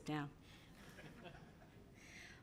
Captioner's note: laughter